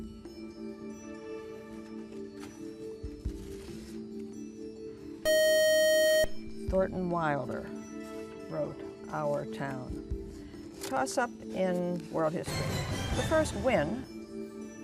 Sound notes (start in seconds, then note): 3.6 buzzer